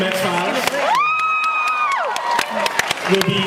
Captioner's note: cheers